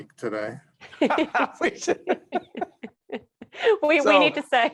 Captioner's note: laughing